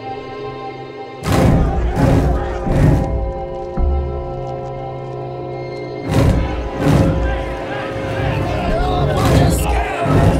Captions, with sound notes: (dramatic percussive music) (crowd shouting) (slow ominous music) (dramatic percussive music) (crowd shouting) - You're all a bunch of scabs!